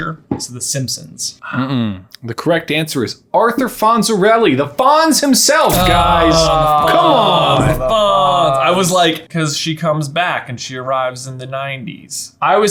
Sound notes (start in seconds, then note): 5.7 groaning